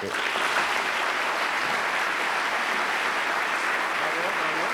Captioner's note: applause